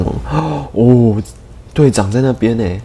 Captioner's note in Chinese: 倒吸一口氣